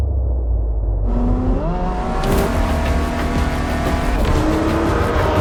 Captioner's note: car engine revving